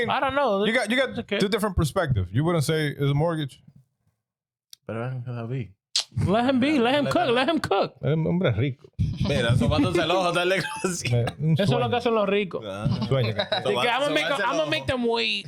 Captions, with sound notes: I mean, I don't know. You got two different perspectives. You wouldn't say it's a mortgage. Better not even cause I'll be. Let him be, let him cook, let him cook. I'm a bric. (Speaking In Foreign Language) I'm gonna make them wait.